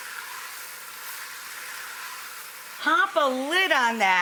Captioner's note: pan continues to sizzle